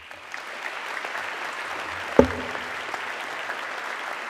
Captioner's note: audience clapping